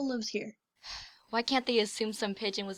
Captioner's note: huffs